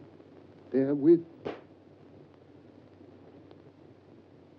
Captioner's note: gunshot blares